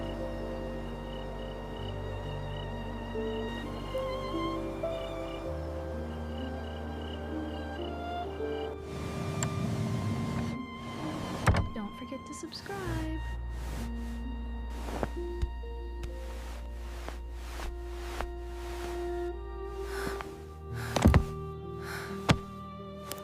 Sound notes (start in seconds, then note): 9.2 a mattress creaking as the bunk is made